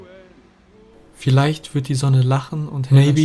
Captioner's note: man speaking foreign language